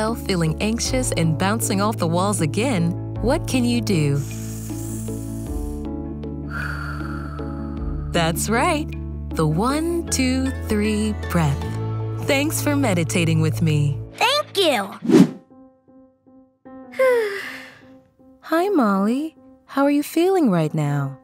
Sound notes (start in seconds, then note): 17.0 sighing